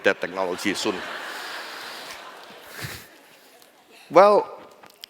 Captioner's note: laughter